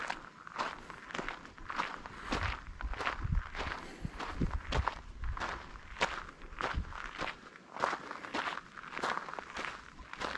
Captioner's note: wind blowing